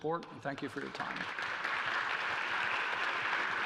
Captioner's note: applause